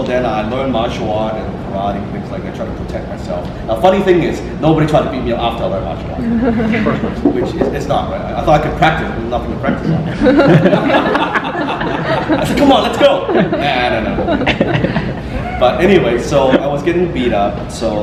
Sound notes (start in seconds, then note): 6.3 audience giggles; 11.2 audience laughter